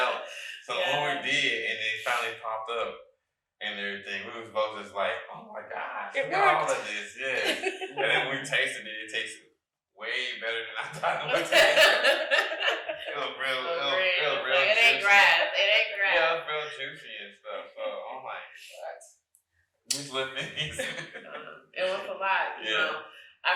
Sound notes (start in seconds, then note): 0.0 all laughing; 7.5 chuckling; 12.2 all laughing; 20.0 chuckling